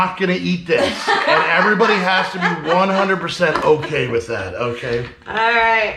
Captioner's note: laughing